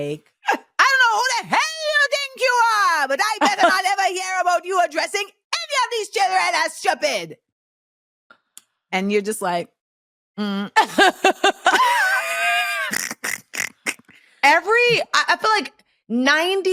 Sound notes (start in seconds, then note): 10.8 laughter